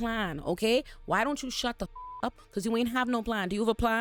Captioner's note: beep